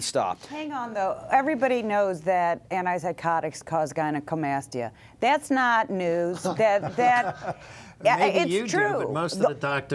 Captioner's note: female Speaking